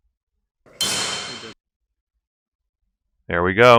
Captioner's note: hammer hitting chisel noise